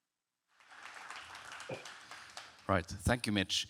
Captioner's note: audience clapping